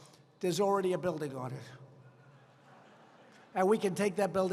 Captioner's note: laughter